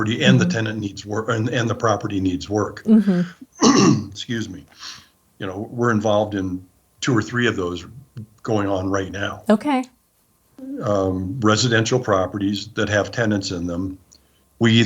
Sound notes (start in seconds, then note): 3.5 clears throat